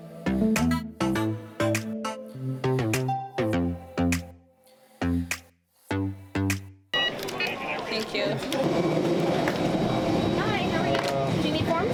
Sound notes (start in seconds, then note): 6.9 machine beeps